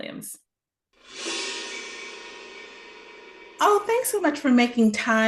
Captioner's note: graphics swoosh